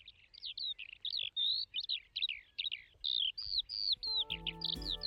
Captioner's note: sound of the Skylark's call